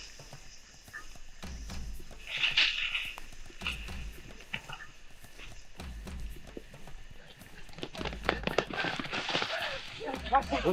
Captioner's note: leaves scrubbing; footsteps clumping